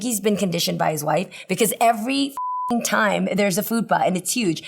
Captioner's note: beep